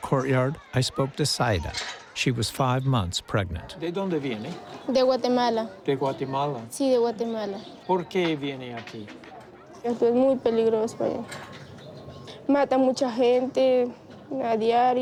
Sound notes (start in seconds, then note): 4.5 in Spanish